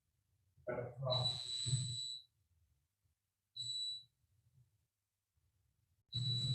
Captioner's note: timer beeping